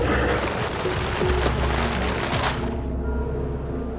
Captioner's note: crunching